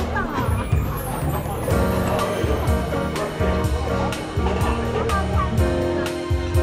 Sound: laughs

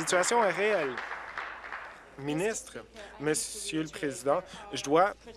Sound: applause

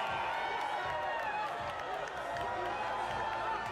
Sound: crowd cheering

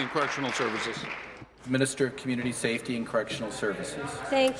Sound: applause

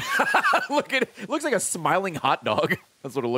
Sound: lauhgs

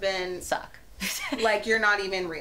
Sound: laughs

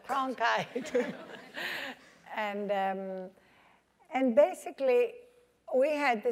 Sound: laugh

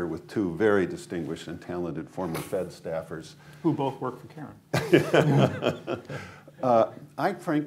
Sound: laughter

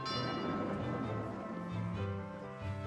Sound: doorbell rings

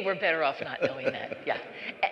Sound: laughter

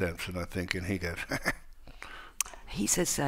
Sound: imitates a chuckle

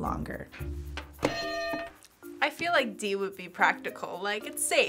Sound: hitting bell

